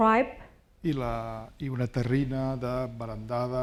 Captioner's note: speaking spanish